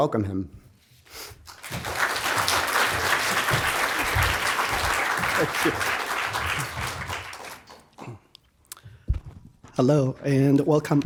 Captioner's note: applause